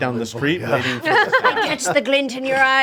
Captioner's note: group laughing